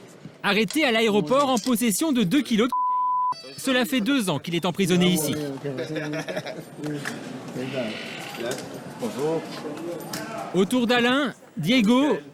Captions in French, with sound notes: Il avait deux kilos de [bip] quand il a été récupéré à l'aéroport et est en prison depuis deux ans.